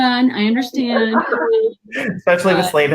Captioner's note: laughter